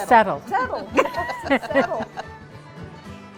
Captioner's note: laughing